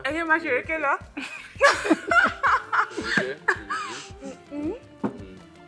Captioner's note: everyone laughs